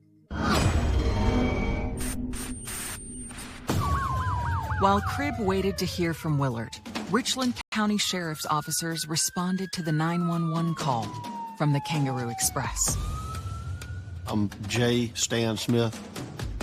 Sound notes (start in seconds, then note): 0.3 dramamatic musisic; 3.3 sirenens wailining